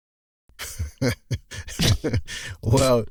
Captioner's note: conspiratorial laughs; scoffs again